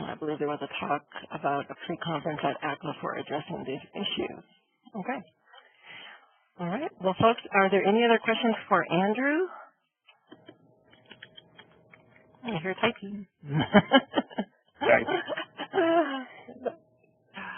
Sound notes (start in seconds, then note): 14.7 laughing